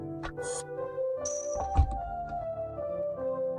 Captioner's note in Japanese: 扉の開閉音：バタン